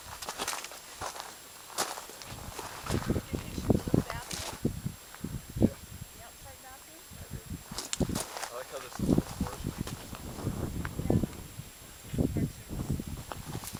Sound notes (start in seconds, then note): 6.5 walking sounds talking background; 7.7 dry brush sounds of crunching